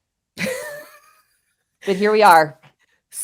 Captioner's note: laughs